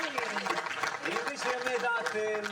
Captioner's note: audience applauding